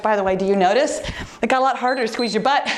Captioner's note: timer beeps